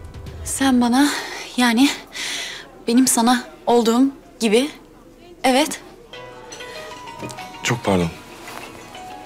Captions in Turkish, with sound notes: Sen bana yani... ...benim sana olduğum gibi, evet? (Telefon zili sesi) Çok pardon.